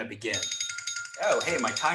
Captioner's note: alarm rings